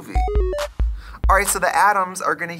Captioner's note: retro video game sound effects